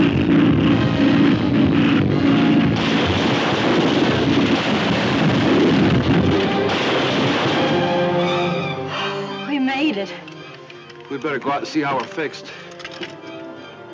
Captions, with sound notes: (crashing) (sighs) - We made it. - We better go out d see how we're fixed.